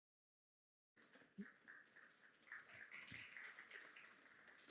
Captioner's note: applause